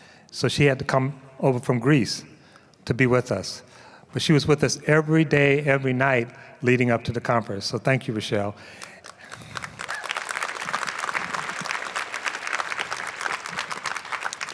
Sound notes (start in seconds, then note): 8.7 applause